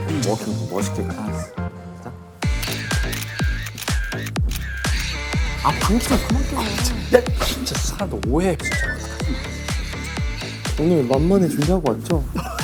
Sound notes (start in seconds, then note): 5.8 slap